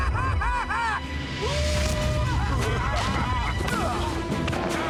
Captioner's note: man laughing and hollering; grunting